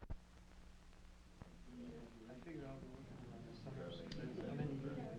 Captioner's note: people murmuring quietly